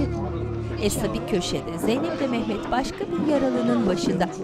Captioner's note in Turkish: İnleme sesleri